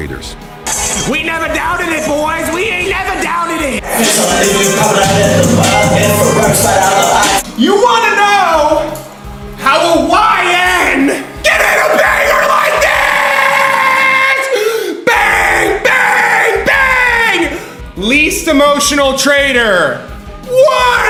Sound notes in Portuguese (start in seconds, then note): 15.0 grito